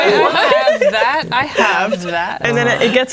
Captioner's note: players laughing